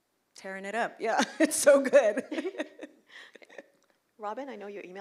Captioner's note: laughs